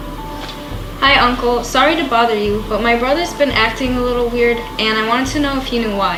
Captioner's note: on the Phone